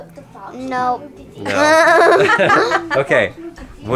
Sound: laughing

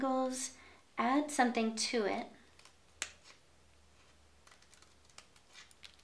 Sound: scissors snipping

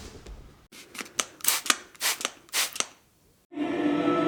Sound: spray paint sound

